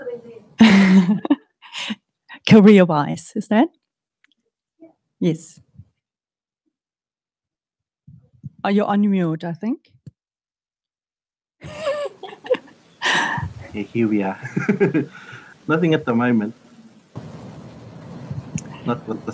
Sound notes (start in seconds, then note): 11.6 chuckling